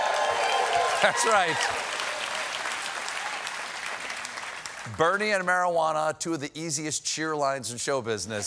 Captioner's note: cheers and applause